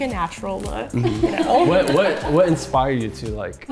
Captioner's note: everyone laughing